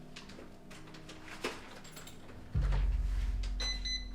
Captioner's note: door unlocking